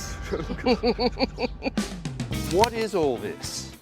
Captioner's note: laughing